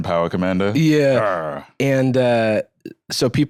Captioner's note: growls